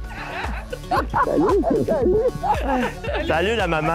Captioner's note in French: rires